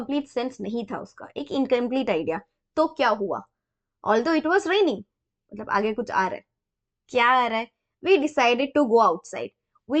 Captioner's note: explaining in hindi